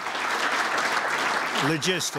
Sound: applause

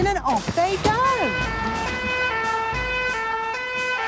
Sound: siren sounding

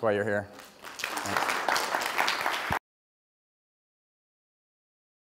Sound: audience applauds

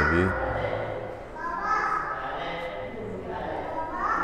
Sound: crowd noise

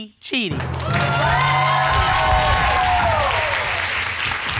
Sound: audience cheering

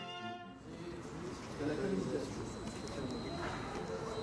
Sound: voices murmuring

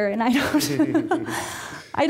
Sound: laughing

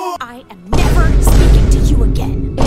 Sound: vine boom x1; vine boom x2

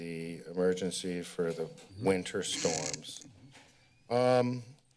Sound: door opens

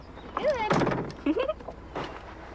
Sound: giggles

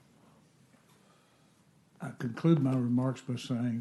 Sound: off mic

